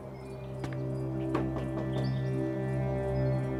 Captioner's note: knocking